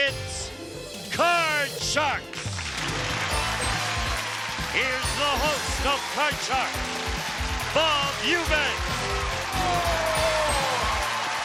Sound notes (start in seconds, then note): 3.2 applause